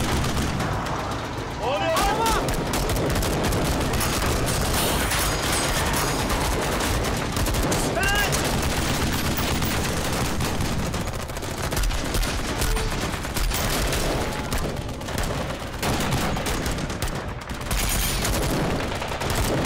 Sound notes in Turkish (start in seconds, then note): 0.0 Silah sesi; 3.1 Silah sesi